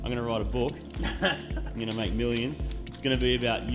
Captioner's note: laughs